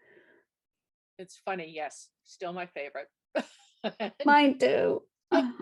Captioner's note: laughs